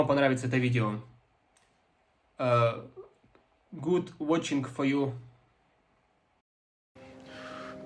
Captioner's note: terrible kazakh speaking terrible english